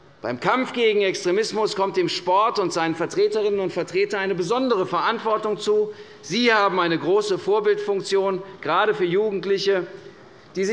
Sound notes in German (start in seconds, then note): none